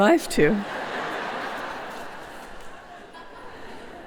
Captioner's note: laughter